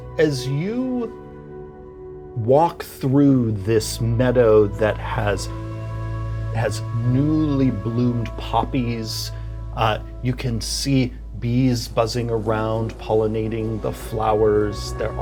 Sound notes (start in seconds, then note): 8.2 wind rustling